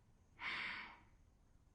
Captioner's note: exhales